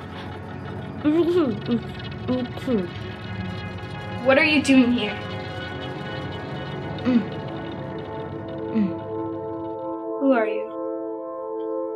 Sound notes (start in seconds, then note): 6.6 emotional music; 6.6 moaning